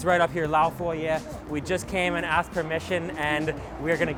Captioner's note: foreign language